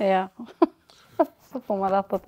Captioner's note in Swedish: Skratt